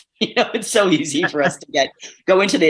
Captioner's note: both laughing